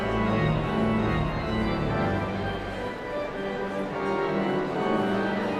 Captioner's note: sound of organ tuning; audience chatter continues